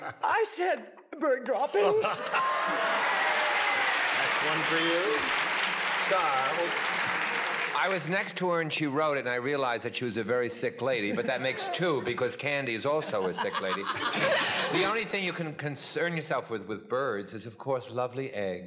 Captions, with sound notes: I said bird droppings. (applause) -That's one for you. Charles? -I was next to her when she wrote it, and I realized that she was a very sick lady, but that makes two, because Candy's also a sick lady. The only thing you can concern yourself with with birds is of course lovely eggs.